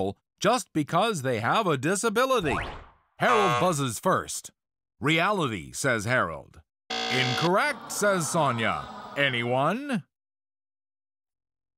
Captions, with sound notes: just because they have a disability." [buzzer] Harold buzzes first. “Reality,” says Harold. [low buzzer] “Incorrect,” says Sonja, [audience sighs] "Anyone?"